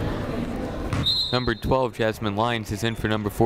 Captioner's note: whistle blows